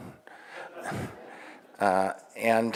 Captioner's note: audience laughing